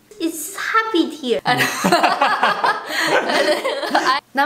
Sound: laughter

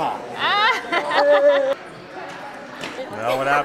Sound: laughing

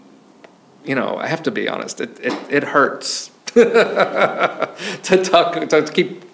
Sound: laughs

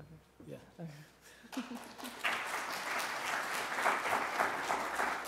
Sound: applause

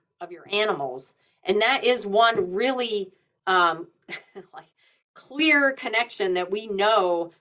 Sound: chuckles

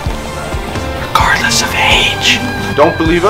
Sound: whispers

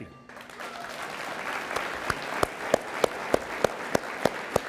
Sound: audience applauds

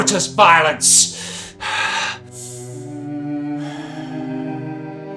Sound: deep breaths

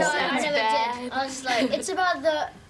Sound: laughter

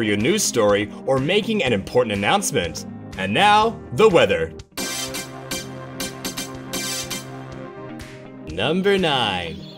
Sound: SFX plays

